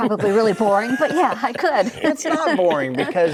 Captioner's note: laughs